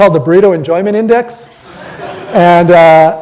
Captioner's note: audience laughter